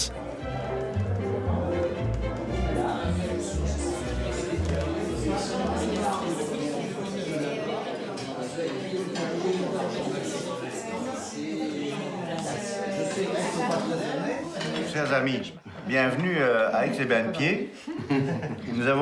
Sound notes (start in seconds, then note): 3.4 guests quietly chattering; 14.9 speaking in foreign language